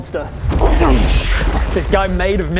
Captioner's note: krrnssscssccchh